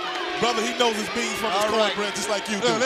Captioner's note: crowd chatter